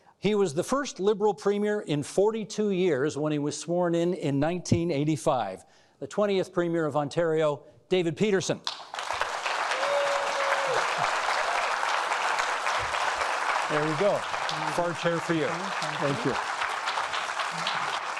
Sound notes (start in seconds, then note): 8.7 applauding